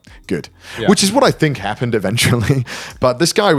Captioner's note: chuckles